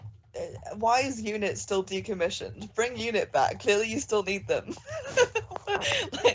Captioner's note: laughs